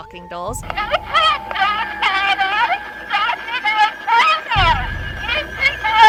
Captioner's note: doll Voice